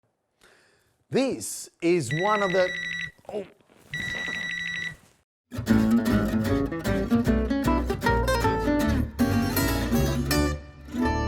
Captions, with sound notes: This is one of the, oh!....(alarm ringing)